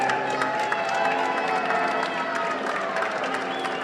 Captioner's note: applause